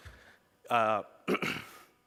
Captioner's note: clears throat